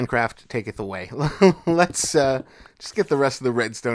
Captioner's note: laughs